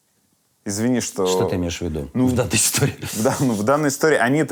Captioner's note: chuckles